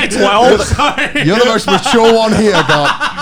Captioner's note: Garnt laughing